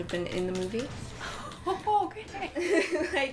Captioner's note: laughing